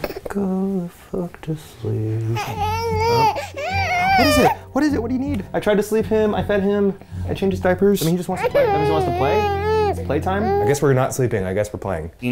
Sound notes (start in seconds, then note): 2.3 cries